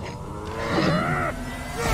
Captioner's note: groaning